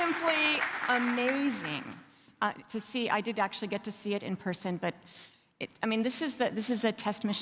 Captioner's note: applause